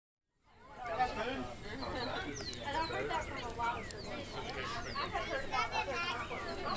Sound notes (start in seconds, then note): 0.6 people chatting; 0.8 birds singing